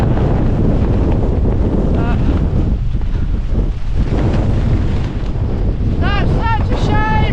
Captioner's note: wind